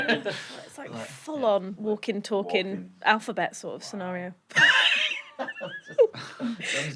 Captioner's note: laughter